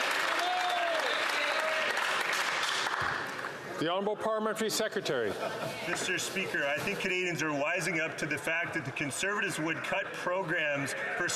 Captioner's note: some Applause